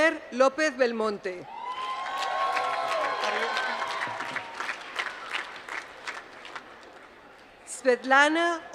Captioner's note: applause